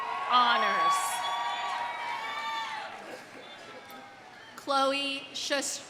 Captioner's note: audience cheering; audience applauding